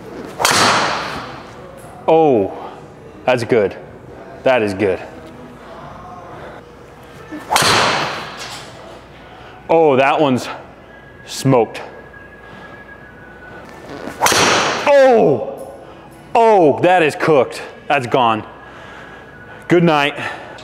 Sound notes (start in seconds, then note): 0.2 club whumps; 7.4 club whumps; 14.1 club whumps